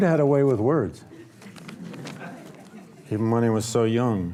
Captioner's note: audience laughs